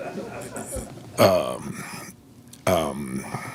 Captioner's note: laughing